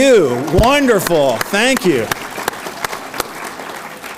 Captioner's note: audience applauds